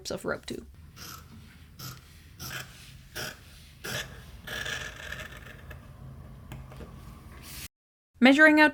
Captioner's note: cutting sounds